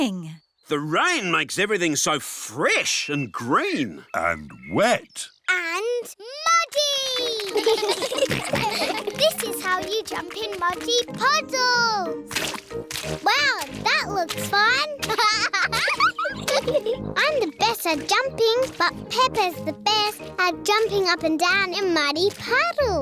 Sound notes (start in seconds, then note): 7.2 children giggle; 14.9 laughs